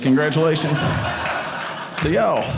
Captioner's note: audience laughing